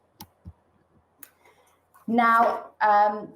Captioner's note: mouse clicks